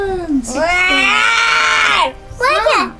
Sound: growls

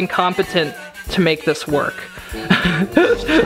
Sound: laughs

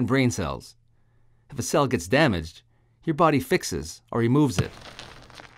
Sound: sound of cell rolling out of image "Get out of here!"

